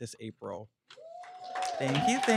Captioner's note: cheering & applauding